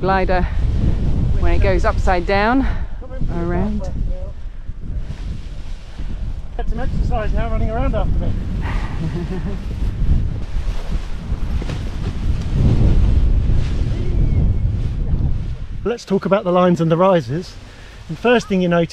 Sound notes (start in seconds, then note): 8.7 laughs; 13.2 wind blows